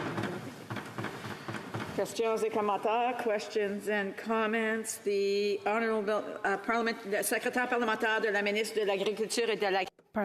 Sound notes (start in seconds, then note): 6.3 speaking French